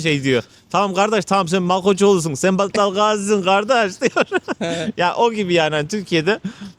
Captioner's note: laughs